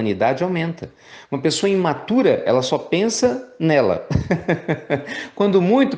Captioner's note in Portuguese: risos